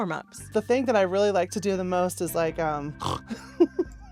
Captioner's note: snorting